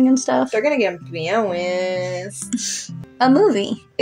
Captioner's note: giggle